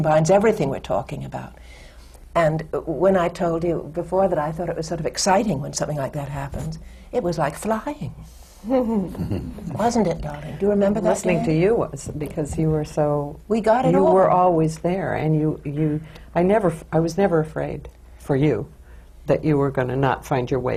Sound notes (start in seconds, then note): 8.8 laughs